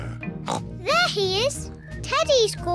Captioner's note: oinks